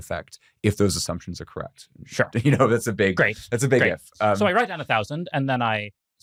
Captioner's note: laughs